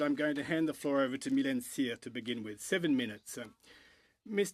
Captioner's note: french